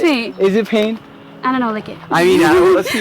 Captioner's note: laughing